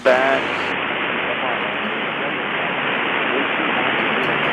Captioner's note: Static